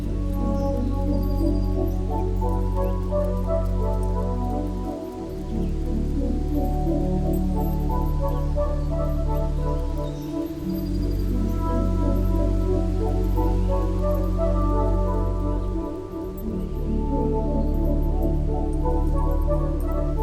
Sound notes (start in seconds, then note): 0.5 birds twittering; 0.5 trees soughing; 5.5 dog tags jingling; 5.5 footfalls padding; 16.3 wonderment music